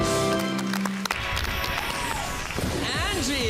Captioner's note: cheering, applauding